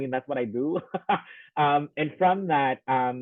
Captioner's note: laughing